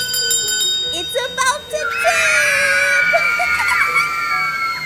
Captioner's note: laughs